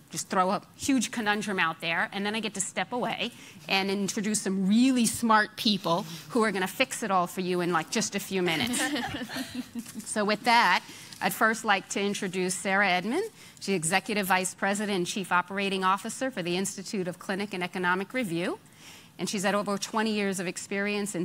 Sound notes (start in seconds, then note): 8.5 laughing